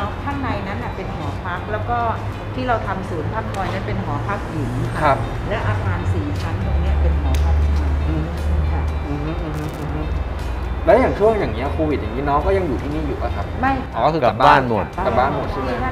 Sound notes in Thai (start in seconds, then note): 9.0 เสียงตอบรับเห็นด้วย